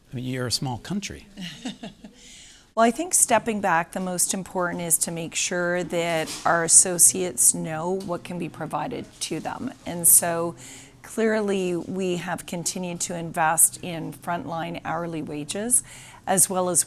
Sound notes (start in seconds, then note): 1.3 laughing